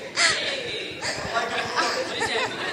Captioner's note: laughing; people chattering